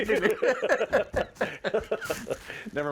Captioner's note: both laugh